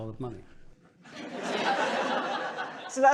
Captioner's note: laughter